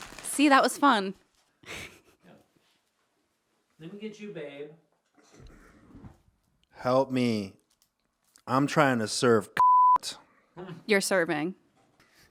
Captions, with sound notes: - See, that was fun. - Yeah. Let me get you, babe. - Help me. I'm trying to serve (beep). - You're serving.